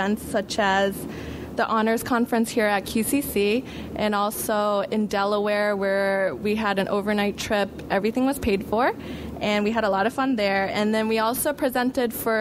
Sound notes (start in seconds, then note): none